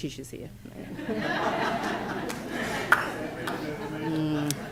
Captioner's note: laughter